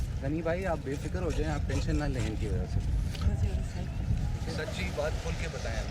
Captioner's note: people speaking foreign language